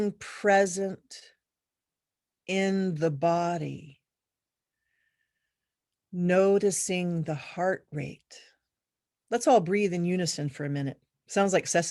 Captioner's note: deep breath